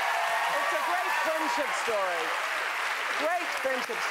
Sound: cheering

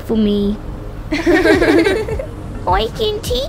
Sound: laughing

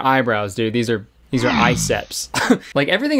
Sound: laughs

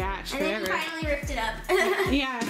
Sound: giggles

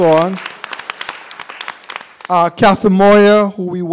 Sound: applause

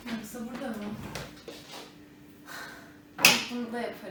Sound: exhales

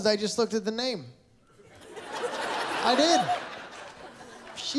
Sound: laughter

